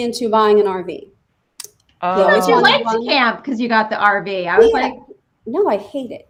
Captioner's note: all woman laughing